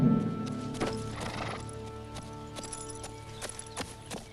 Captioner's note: horse snorts